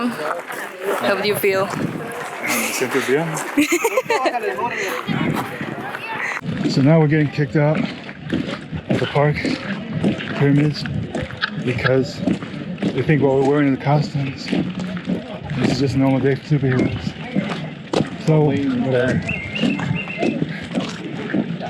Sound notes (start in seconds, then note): 3.9 laughs